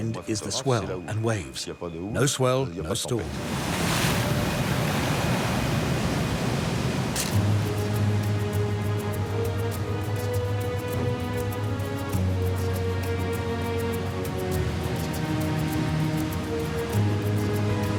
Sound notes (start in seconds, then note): 3.7 waves crashing; 7.2 camera snapping; 8.2 bright music